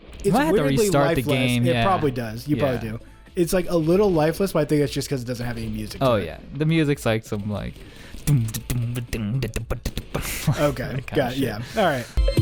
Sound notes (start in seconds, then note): 8.2 mimics music; 9.7 laughs